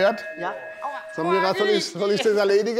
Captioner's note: Läuten